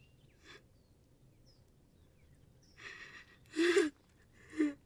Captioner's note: Hanna crying